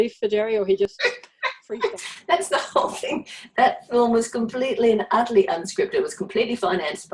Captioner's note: laughs